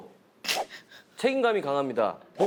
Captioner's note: pffft